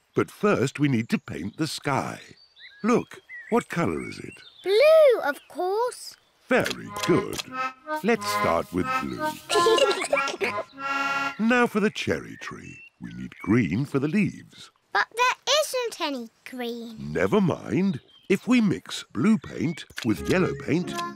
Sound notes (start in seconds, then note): 9.2 both giggle